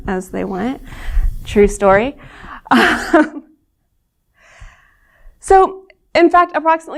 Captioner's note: laughter